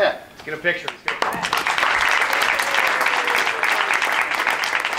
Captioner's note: audience claps